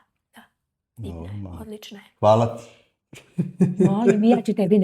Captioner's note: laughs